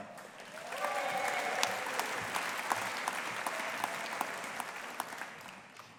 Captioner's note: audience applauding